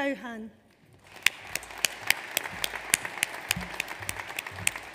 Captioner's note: audience applauds